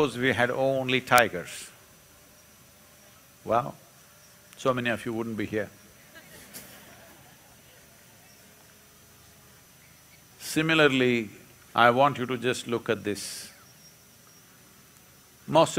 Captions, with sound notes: Suppose we had only tigers. Well, so many of you wouldn’t be here (Few laugh). Similarly, I want you to just look at this -